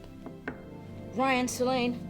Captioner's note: knocking